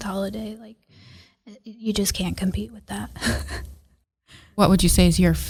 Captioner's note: laughs